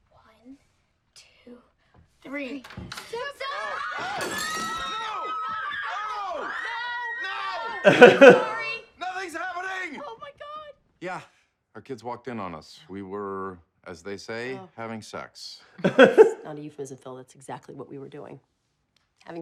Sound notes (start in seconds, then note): 4.6 kids scream; 7.8 laughs; 15.8 laughs